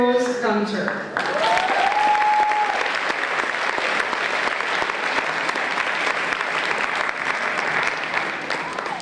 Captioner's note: applause and Cheers